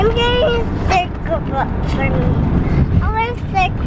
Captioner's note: baby babbling